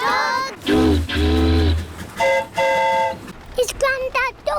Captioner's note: train horn toots; boat horn honks